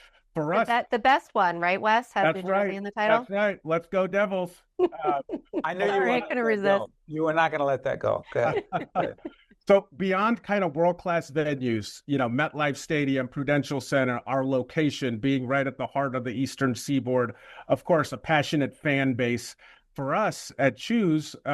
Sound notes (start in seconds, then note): 4.8 laughs; 8.1 laughter